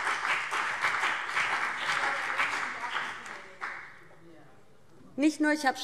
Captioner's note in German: Beifall BÜNDNIS 90/DIE GRÜNEN